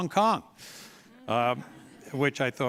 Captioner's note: audience laughing